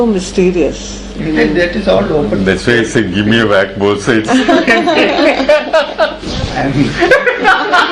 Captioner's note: laughter